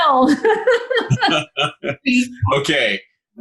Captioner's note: laughing